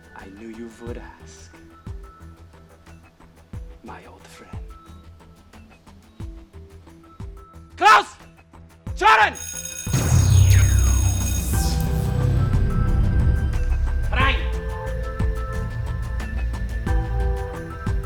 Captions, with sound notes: - I knew you would ask, my old friend. (shouts instructions in foreign language) (alarm rings) (shouts instructions in foreign language) (gentle music)